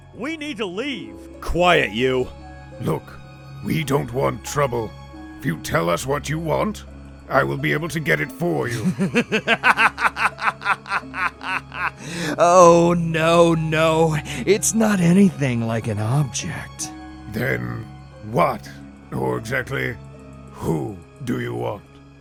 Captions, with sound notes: We need to leave..! Quiet, you! Look, we don't want trouble. If you tell us what you want, I'll be able to get it for you. (laughs crazily) Oh, no, no, it's not anything like an object. Then what, or exactly.. who, do you want?